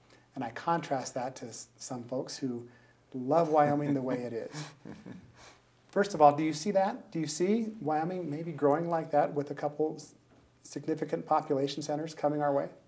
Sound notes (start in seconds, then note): 3.5 laughing